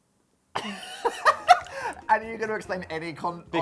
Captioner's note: laughs